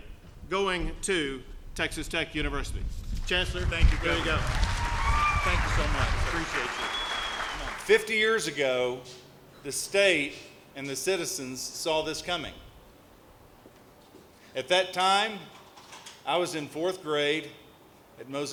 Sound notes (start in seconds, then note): 3.6 applause